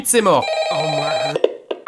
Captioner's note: phone ringing